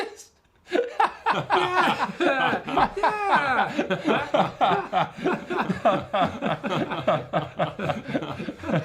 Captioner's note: laughs; everyone laughs; everyone laughs.... for way too long